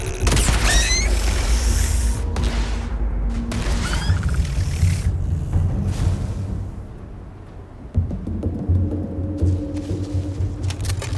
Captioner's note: gunshots